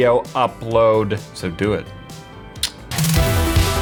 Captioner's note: kiss